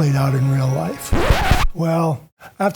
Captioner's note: record scratching